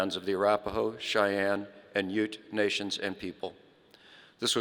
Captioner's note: none